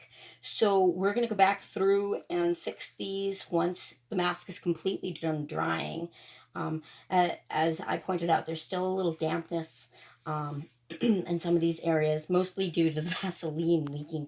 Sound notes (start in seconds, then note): 10.9 ahem again